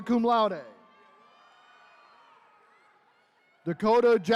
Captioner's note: attendees cheering